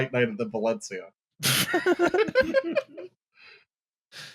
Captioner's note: laughter